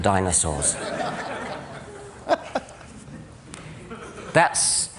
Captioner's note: laughter